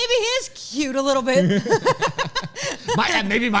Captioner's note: laughs